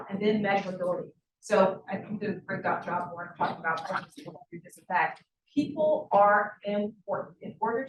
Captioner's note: sound distorted